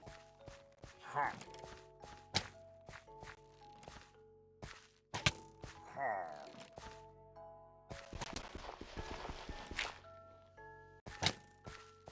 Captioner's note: Pillager noises and arrows being fired